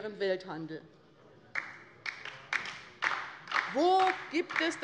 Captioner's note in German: Beifall bei der LINKEN